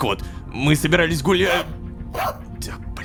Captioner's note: robodog barking